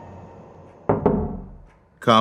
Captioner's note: knocking